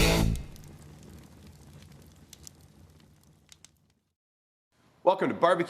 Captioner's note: fire crackling